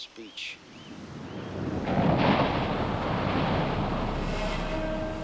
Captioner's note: waves crashing; dramatic music